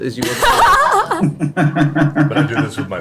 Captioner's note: all laugh